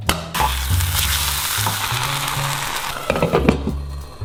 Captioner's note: food sizzling